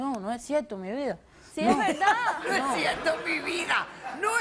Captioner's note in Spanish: Risas